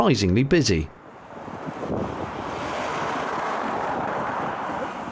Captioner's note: sound of cars passing